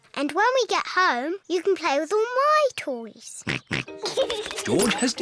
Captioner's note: snorts and giggles